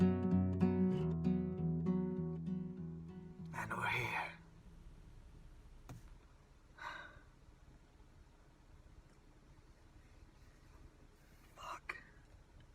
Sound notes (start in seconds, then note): 6.8 sighs